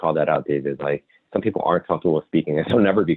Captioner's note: laughs